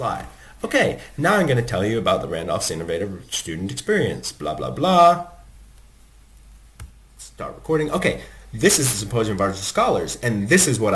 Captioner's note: recorded narration is playing back